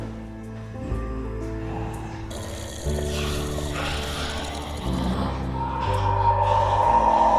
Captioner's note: zombie growling